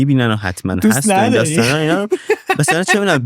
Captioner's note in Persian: خنده